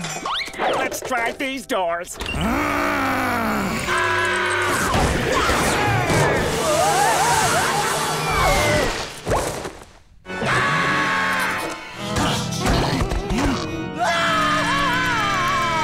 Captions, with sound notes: Let's try these doors. [grunting] [screaming] [screaming] [screaming]